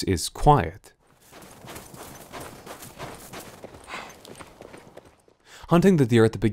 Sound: the quiet crunch of footsteps through snow

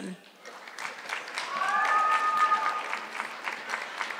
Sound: audience clapping

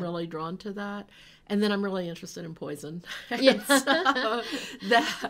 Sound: laughs

